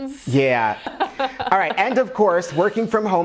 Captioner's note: laughs